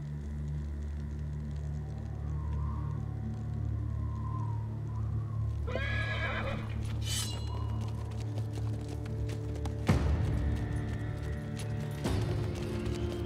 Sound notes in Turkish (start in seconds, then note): 0.2 Gerilim müziği; 5.6 At kişniyor; 7.2 Gerilim müziği